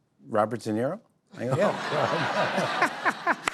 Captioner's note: laughter